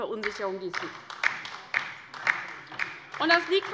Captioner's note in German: Beifall bei der LINKEN